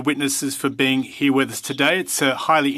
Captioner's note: speaking French